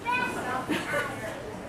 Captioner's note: laughter